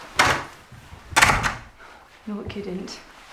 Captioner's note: closes door